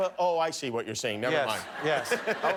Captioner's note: laughter